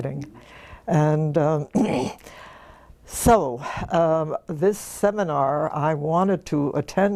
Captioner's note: cough